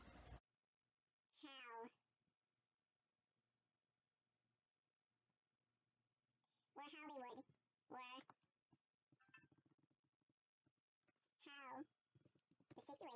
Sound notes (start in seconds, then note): 1.8 no sound as video fast forwards